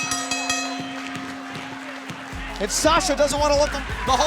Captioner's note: bell ringing